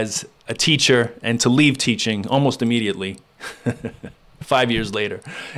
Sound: laughs

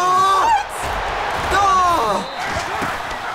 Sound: exclaims in frustration

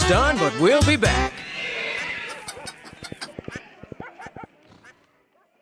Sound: barnyard animal sounds

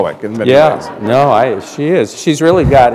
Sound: laughter

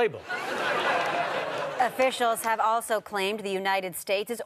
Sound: audience laughter

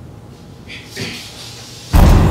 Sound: clears throat

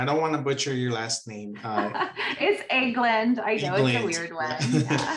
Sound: laughs

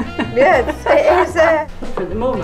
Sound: laughs

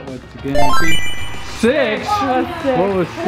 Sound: chimes

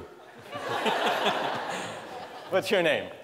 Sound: laughter

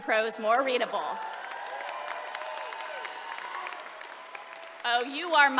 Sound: cheering

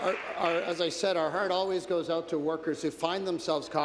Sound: applause

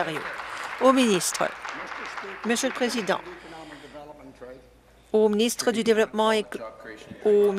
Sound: applause

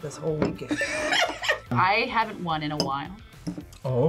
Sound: laughs

